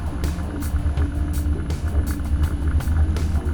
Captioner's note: mellow music; motor hums